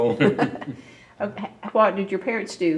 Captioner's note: laughs